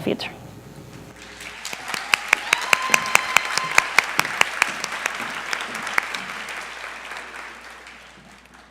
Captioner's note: applause